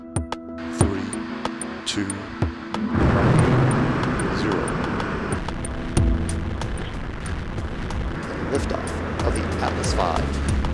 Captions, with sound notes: NASA's InSight lander launched from Vandenberg Air Force Base on May 5, 2018. [rocket roars] InSight is the first interplanetary mission